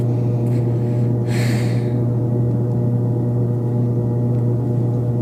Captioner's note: girl sighing